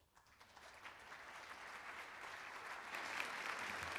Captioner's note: applauding